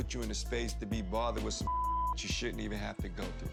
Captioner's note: beep